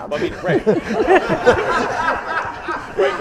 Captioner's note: laughter